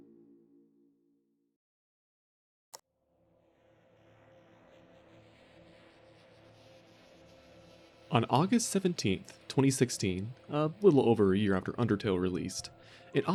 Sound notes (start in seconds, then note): 2.7 click